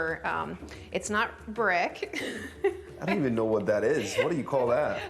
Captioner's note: laughs